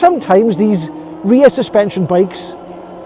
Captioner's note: laughs